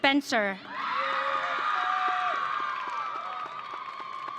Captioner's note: audience cheering